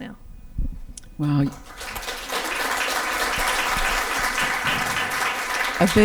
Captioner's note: audience applause can be heard